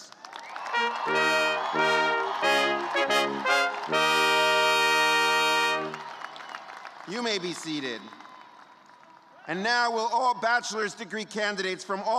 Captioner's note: cheers and applause